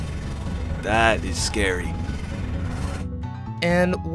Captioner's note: Eldridge abomination noise